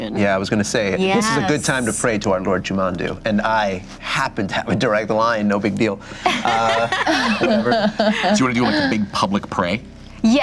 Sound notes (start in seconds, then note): 6.2 laughter